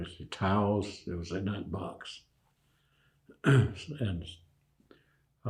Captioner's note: clears throat